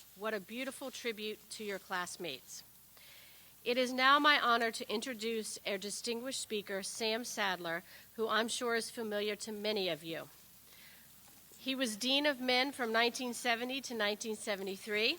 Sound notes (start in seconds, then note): none